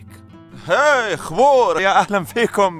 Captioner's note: speaking foreign